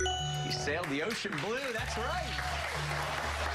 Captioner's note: cheers and applause